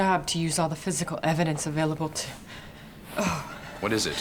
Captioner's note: groaning